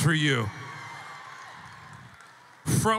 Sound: audience cheering

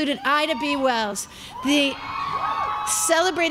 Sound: crowd cheering

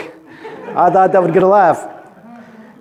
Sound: laughter

